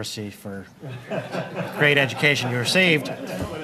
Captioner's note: laughter